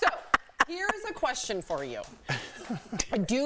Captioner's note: laughter